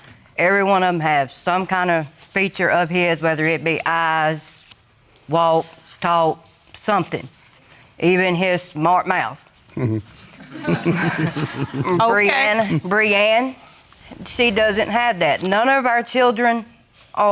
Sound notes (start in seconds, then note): 7.9 chuckles; 10.1 audience chuckling